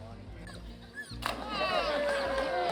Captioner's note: water splashing; people cheering